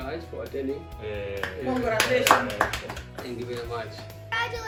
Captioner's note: clapping